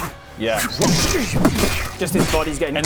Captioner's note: doosh doosh